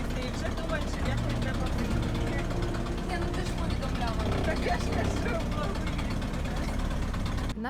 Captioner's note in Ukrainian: гуркіт машини і розмови на тлі